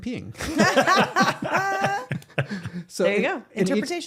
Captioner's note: both laughing